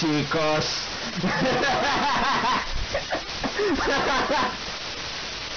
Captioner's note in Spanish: risa